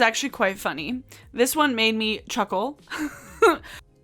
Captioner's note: chuckling